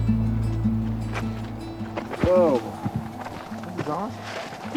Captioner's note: footsteps